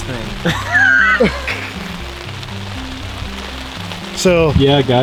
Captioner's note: laughing